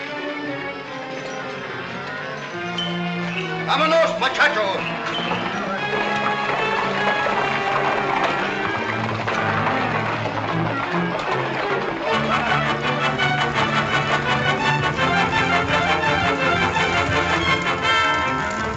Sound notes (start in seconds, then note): 3.8 in spanish; 6.7 tense music